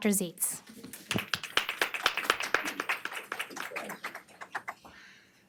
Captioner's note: audience applauds